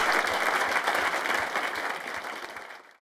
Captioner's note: applause